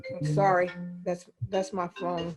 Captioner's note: phone ringing